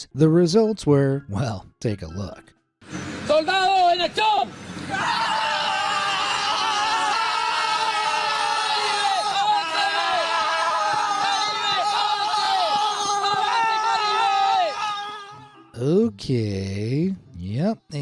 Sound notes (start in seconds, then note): 3.6 speaking in foreign language; 6.2 soldiers shouting